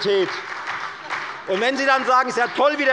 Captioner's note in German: Beifall bei der FDP und der SPD